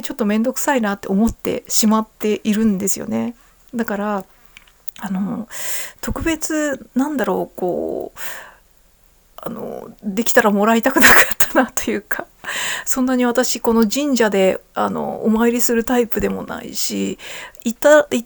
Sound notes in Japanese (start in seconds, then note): 11.0 笑い